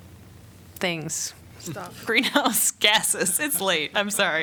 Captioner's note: laughter